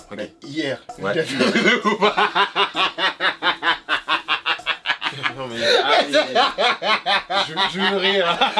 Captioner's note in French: fou rire